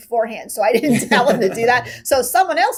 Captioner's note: laughing